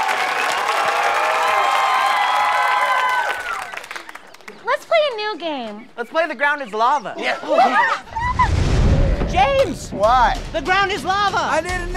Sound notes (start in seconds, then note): 7.4 screams